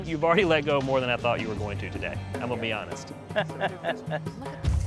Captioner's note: laugh